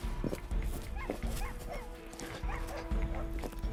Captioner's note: shuffling